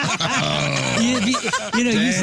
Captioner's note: laughter